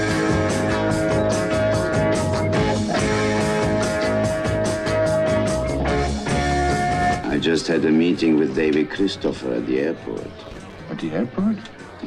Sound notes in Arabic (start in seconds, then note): none